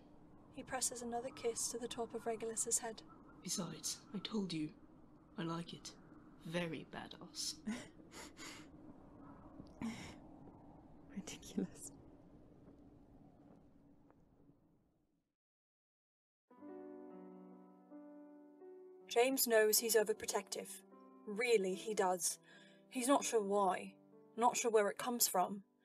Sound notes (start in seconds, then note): 8.1 Regulus half-sniffles half-laughs